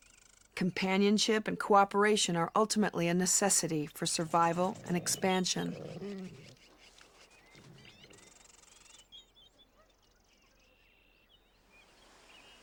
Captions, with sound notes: Companionship and cooperation are ultimately a necessity for survival and expansion. (wolves playfully grunting)